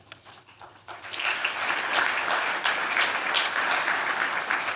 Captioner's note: applause